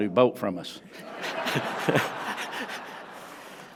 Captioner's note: laughter